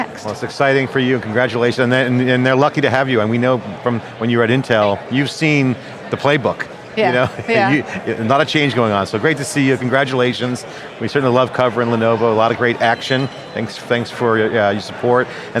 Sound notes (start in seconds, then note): 7.0 laughs